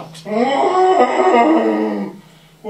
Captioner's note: Marley's ghost moans